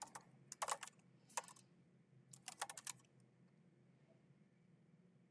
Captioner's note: keyboard clacking